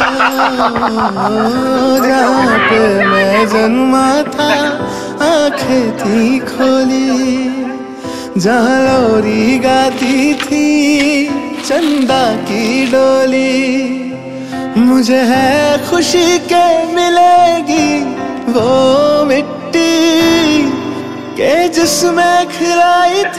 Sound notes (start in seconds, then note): 4.4 kashmiri villagers talking